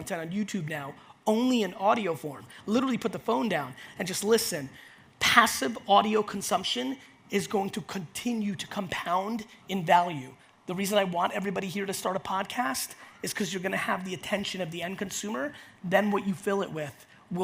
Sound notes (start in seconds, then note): none